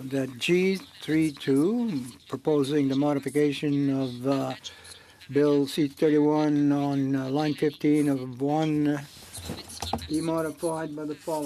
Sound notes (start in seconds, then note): 2.4 speaking French